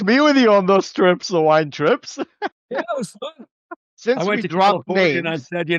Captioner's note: laughter